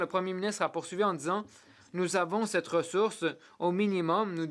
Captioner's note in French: voix de l'interprète